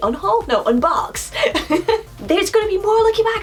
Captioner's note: laughs